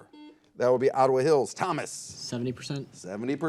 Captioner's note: buzzer